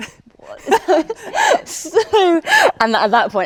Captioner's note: Elizabeth laughing